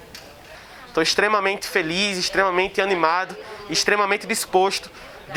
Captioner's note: hubbub